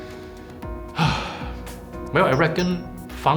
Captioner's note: sigh